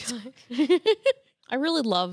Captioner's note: laughs